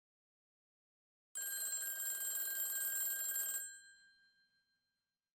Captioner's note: phone ringing